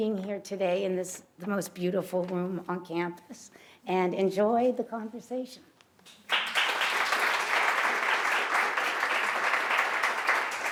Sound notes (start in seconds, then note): 6.0 applause